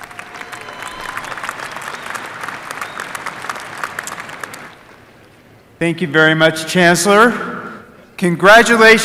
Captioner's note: applause